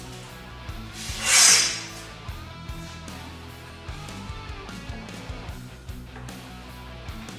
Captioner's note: intense rock music; tool scrapes